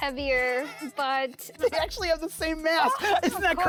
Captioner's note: laughs